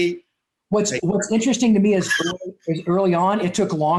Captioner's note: static audio